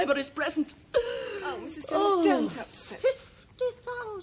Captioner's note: gasps